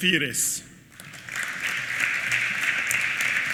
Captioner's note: applause